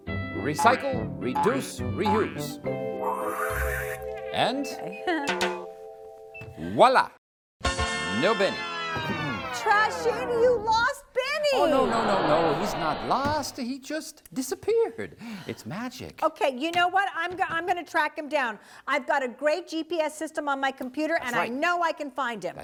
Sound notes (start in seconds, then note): 2.9 woosh!; 4.8 tap-tap!